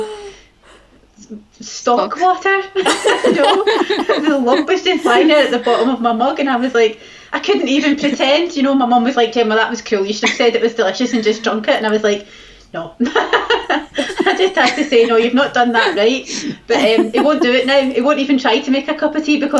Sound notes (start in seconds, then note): 13.0 laughs